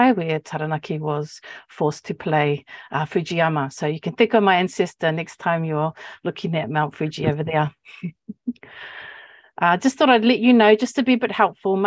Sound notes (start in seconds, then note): 9.1 laughs